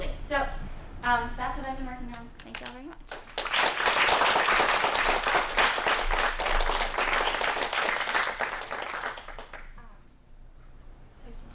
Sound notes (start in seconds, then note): 5.4 applause